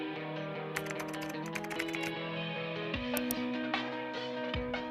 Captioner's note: relaxing music; keyboard keys clacking; relaxing music